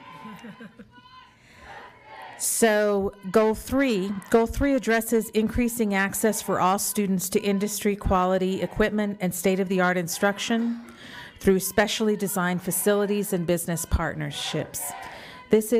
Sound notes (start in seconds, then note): 1.8 crowd